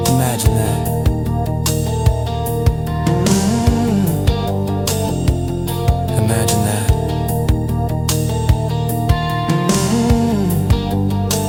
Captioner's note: hum